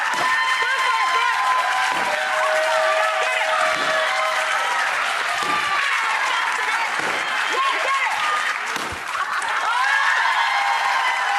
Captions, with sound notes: (yelling) Yeah get it! (cheering) Yeah get it!